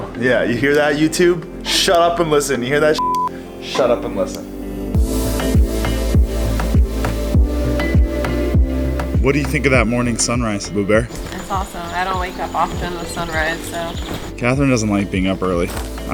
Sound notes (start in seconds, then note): 2.9 beep; 5.0 upbeat music